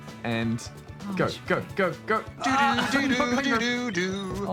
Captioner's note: laughs